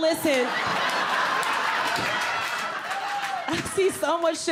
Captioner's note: audience laughing